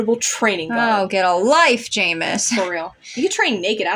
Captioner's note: chuckle